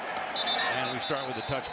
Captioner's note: whistle